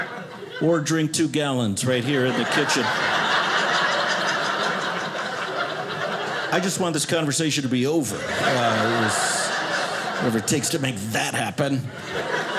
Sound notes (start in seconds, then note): 1.8 audience laughing